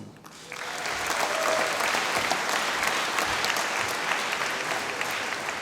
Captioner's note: applause